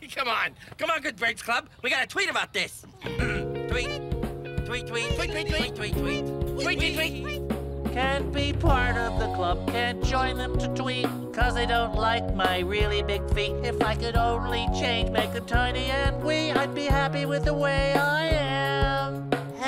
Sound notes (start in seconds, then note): 3.5 birds tweeting; 3.5 light music